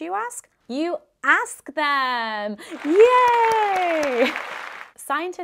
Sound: audience applauds

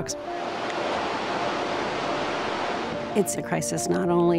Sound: water roaring

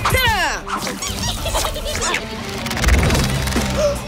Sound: laughing

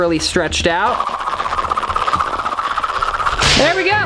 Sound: whirling sound

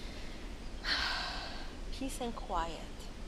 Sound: sighing

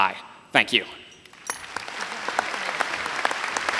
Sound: applause

